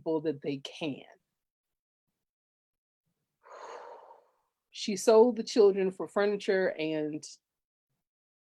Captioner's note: exhales